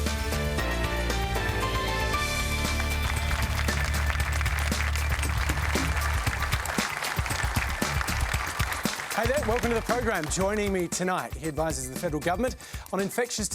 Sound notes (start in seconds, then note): 2.3 applause